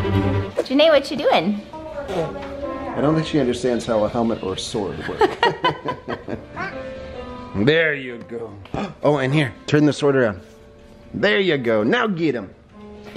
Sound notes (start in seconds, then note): 5.0 laughing